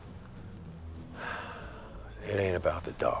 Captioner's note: Heep sighs deeply